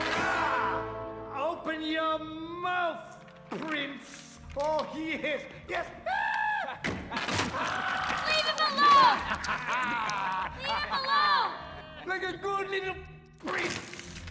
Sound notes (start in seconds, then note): 6.1 shrieks with laughter; 8.8 laughter